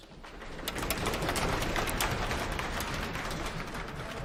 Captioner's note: applause